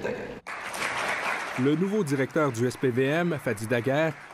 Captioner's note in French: applaudissements